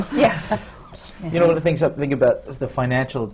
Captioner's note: laughter from the panel